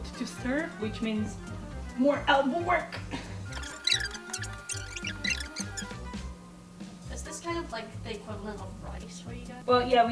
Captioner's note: squeaking